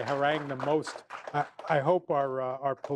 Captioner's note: applause